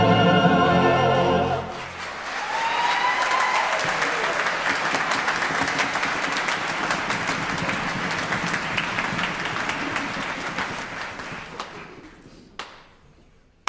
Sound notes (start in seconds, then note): 1.7 applause